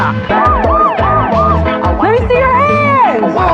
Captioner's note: sirs blaring